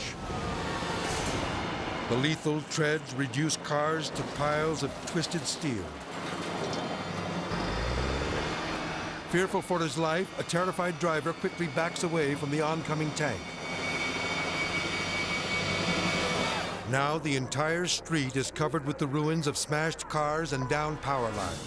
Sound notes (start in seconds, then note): 0.0 intense dramatic music; 5.8 motor rumbling; 7.4 tense dramatic music